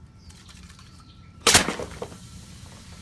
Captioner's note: can explodes; soda fizzles; can rattles